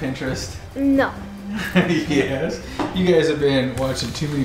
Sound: chuckles

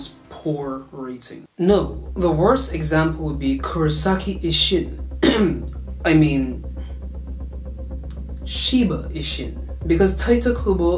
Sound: ahem

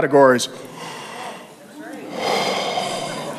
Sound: gasps

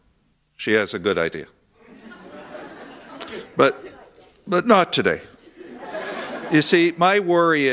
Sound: laughter

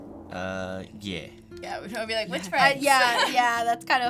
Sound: laughs

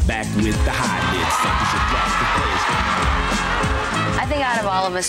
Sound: crowd cheers

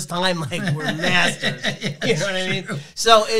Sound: laughs

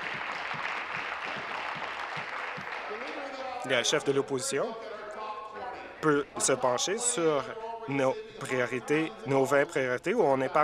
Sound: applause

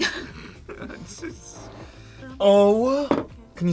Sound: laughs

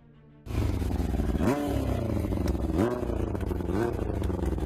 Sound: engin revving

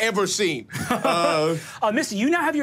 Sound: laughs

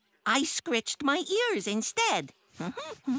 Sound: hums and giggles

